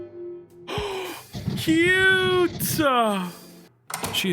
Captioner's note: gasps